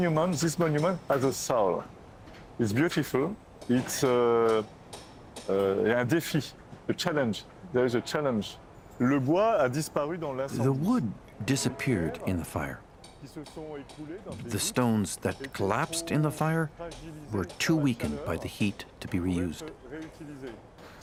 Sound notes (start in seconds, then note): 0.5 speaking French; 11.5 speaking French